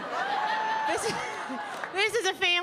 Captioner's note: audience laughing; laughing